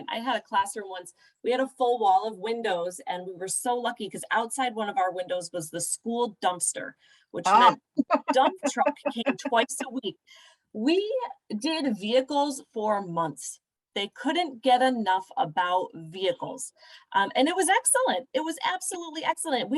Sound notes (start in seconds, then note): 7.0 laughter